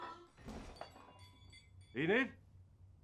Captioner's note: loud crash; glass breaking